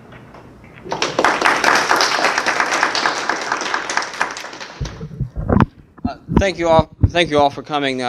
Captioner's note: applause